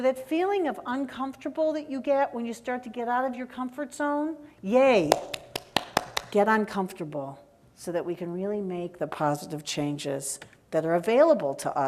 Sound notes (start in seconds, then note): 5.1 applause